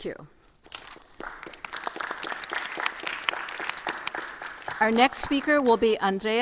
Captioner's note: audience applauds